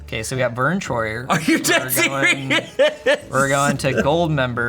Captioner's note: laughs